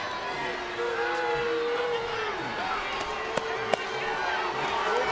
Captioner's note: audience jeers